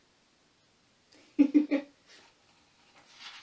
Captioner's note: laughs